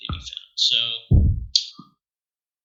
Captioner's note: boom